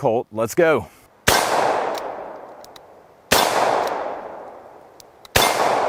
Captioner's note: gun fires